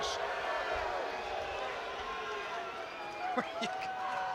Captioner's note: crowd chatter